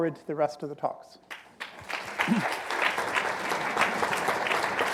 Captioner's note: audience applauding